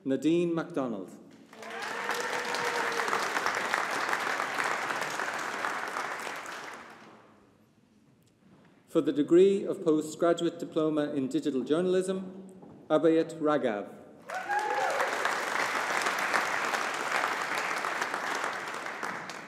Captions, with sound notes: Nadine MacDonald. (AUDIENCE APPLAUDING) For the degree of Postgraduate Diploma in Digital Journalism, Abheet Raghav. (AUDIENCE APPLAUDING)